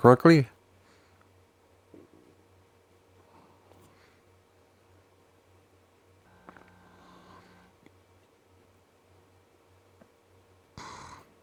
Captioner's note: silence